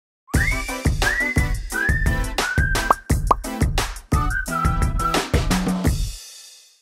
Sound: whistling

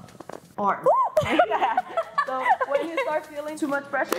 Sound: laughing

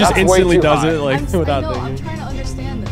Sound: laughing

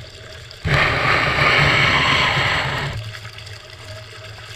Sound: water splashing

